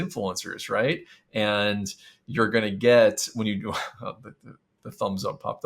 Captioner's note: chuckles